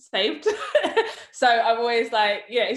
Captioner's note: laughs